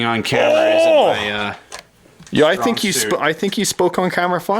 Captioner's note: grunting